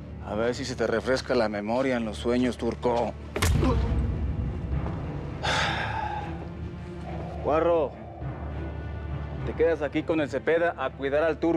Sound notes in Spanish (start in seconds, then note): 3.7 quejido